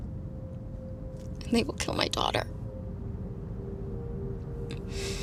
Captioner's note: sniffs